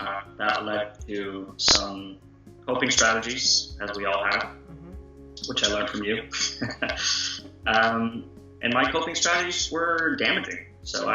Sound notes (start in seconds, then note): 6.6 laughter